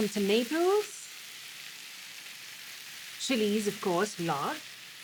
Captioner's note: sizzling